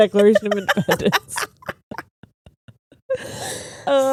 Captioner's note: laughing